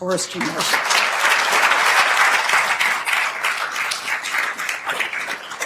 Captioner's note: attendees applauding